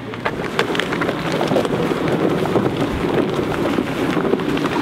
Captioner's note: equipments moving